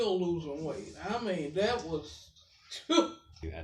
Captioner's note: scoffs